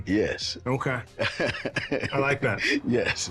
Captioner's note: laughs